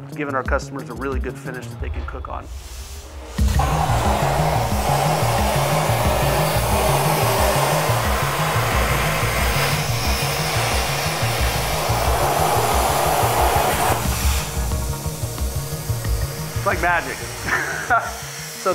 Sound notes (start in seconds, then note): 3.0 metal grinds; 6.1 upbeat music; 17.4 laughs